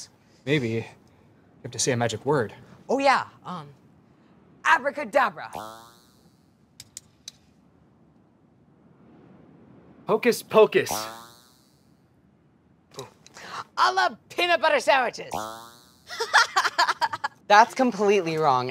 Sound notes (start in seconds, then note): 5.4 bouncy noise; 6.6 tapping noise; 10.9 bouncy noise; 15.3 bouncy noise; 16.1 witch laughs